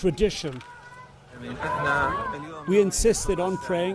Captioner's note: speaks in foreign language